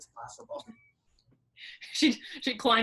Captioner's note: laughing